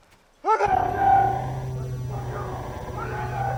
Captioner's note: computerized humming